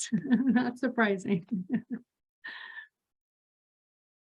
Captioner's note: laughing